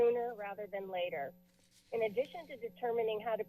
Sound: paper rustling

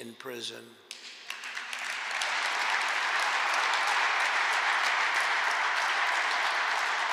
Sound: applause

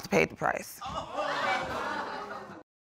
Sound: laughter

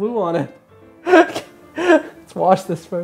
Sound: laughing

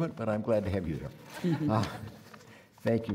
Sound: audience laughing

